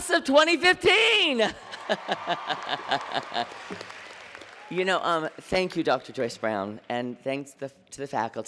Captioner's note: laughter; applause